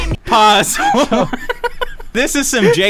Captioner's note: everyone laughs